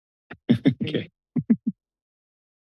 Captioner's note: laughter